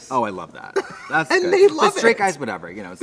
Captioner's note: Trixie laughs